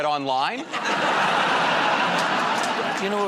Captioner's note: laughter